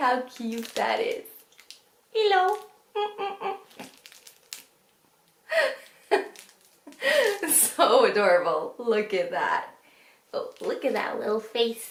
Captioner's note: laughs